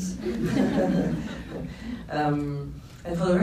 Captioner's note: laughs